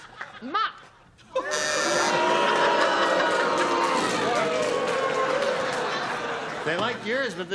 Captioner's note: buzzing